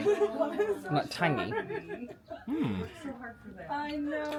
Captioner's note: chatting with guests